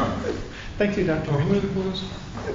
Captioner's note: laughter